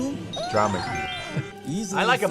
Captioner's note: laughs